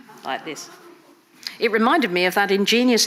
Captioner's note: audience laughing